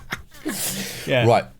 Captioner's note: laughing